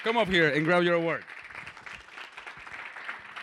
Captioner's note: applause